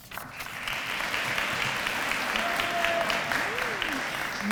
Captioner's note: applause